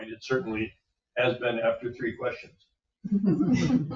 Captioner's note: members chuckling